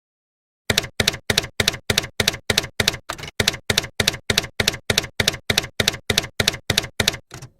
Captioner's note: typewriter keys clacking